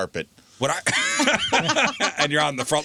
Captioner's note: laughter